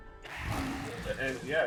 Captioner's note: monster growling